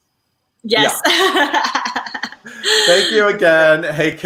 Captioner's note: laughing